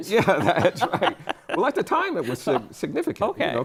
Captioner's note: laughter